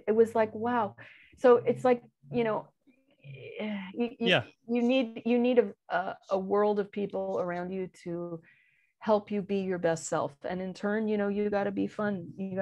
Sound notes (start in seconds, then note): none